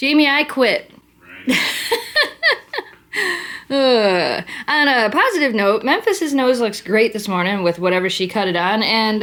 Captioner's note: laughter